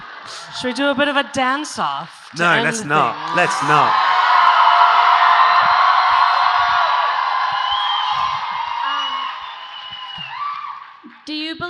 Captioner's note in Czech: Potlesk